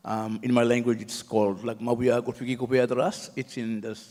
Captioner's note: speaks native language